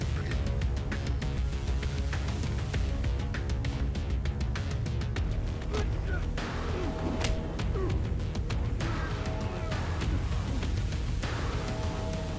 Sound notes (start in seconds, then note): 5.6 blow thudding; 5.6 both grunting; 9.0 mellow upbeat music